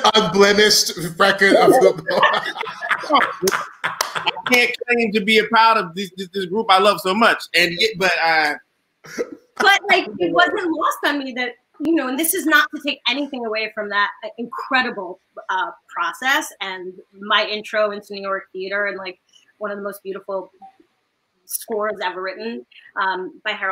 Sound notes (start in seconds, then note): 1.5 all laughing